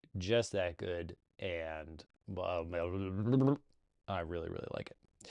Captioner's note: flubbers lips